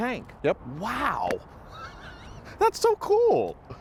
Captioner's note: laughing